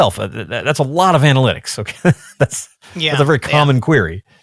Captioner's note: chuckles